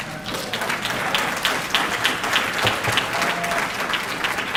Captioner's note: audience clapping